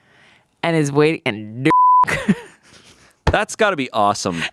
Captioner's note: beep; laughs